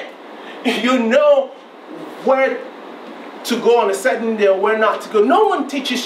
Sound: chuckles

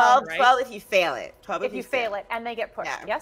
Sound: none

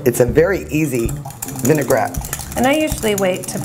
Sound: tapping

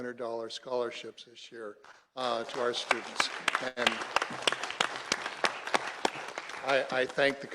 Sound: applause

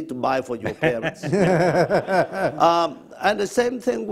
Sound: laugh

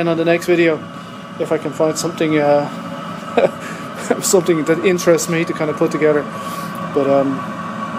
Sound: laughs

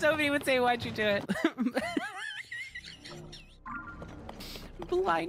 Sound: laughter

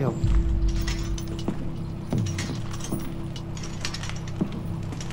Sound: chains clinking

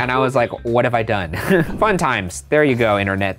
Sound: chuckles

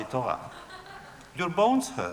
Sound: laughter

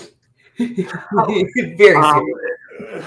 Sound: laughing

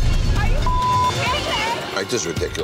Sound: beep

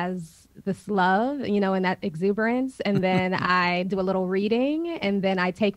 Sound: Sadhguru laughs

